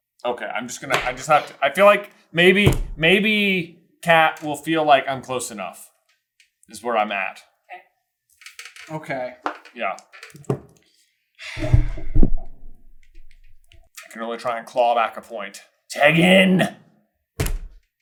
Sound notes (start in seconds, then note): 11.4 sigh